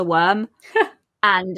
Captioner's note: laughs